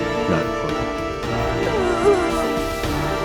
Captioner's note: cries